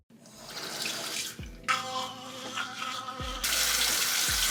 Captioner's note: water running